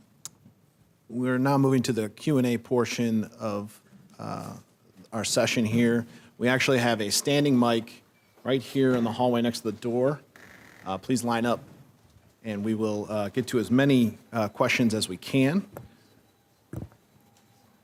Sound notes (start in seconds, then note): none